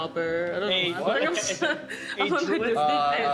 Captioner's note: laughing